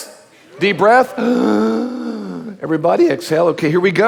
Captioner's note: inhaling